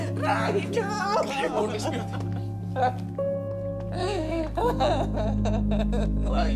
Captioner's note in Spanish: Sollozos